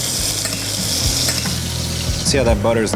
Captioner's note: spoon clanking